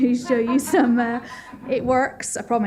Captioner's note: laughter